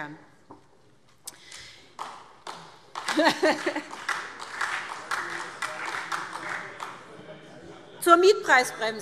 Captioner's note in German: Beifall SPD